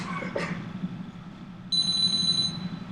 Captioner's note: phone ringing